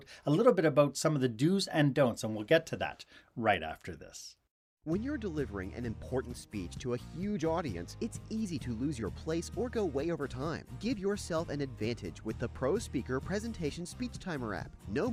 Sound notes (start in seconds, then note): 4.8 voiceover